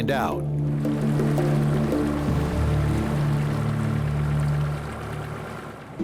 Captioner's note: water gently splashing; haunting orchestral music